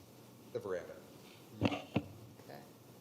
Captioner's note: microphone knocking